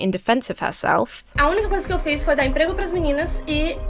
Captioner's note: speaking Portuguese